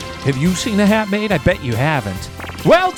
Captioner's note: digital pulsing